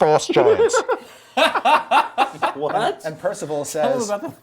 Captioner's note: group laughs